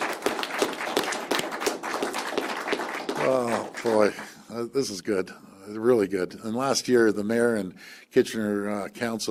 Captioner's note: applause